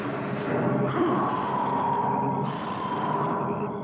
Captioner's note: roaring